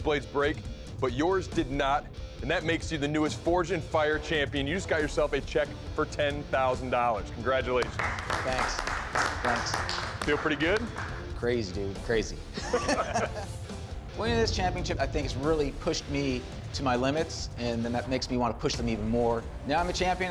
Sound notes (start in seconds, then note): 7.8 applause; 12.5 laughter